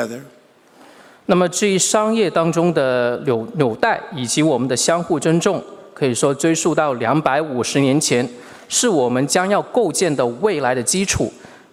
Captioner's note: speaking Mandarin Chinese